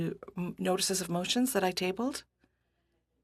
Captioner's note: speaking French